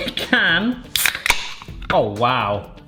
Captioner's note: can opening